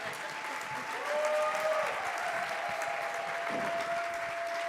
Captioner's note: audience claps; audience cheers